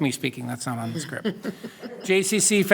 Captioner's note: chuckling